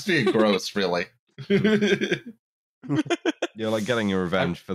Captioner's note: laughs